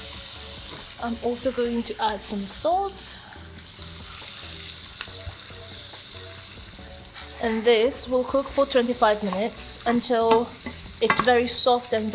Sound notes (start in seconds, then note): 4.4 butter sizzling; 6.7 bright music continues